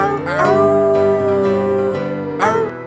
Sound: wolf howling

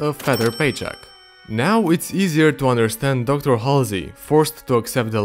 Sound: cash register sound effect

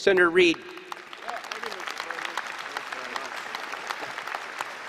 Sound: applause

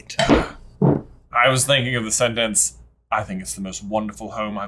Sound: British accent

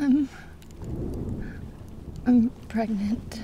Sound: thunder cracking

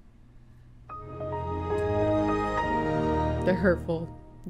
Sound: microsoft windows xp starting up sound effect

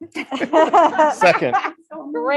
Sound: laughing

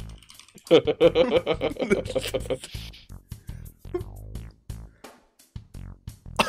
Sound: laughter

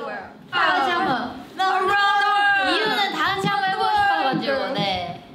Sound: speaking in Korean

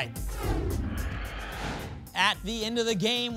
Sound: whoosh

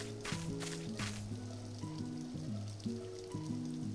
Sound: Froggy fountain gurgling

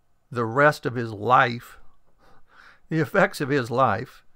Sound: none

